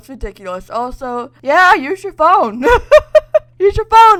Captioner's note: laughs